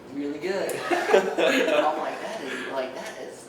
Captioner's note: laughs